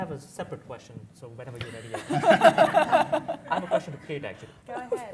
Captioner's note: laughter